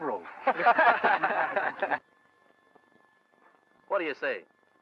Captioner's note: men laughing